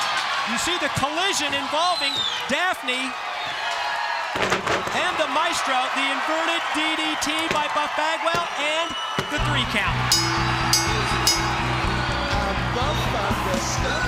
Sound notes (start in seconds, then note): 10.0 bell ringing